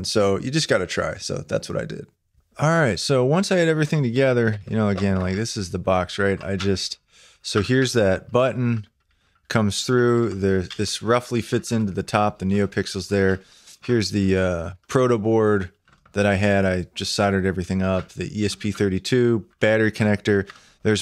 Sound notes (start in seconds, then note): 4.6 rattling